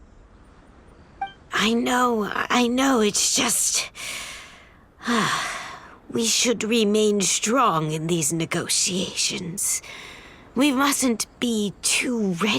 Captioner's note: sigh